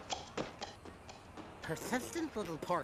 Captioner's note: suction pump popping